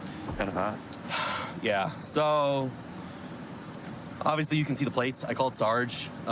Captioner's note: sighs